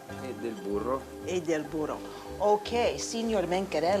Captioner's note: speaking Italian